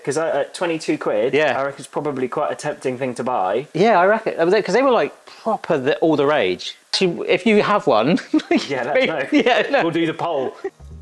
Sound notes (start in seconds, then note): 8.2 giggling